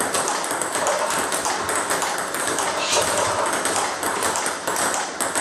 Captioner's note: ball ping pong hitting continues